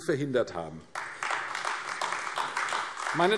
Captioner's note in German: Beifall AfD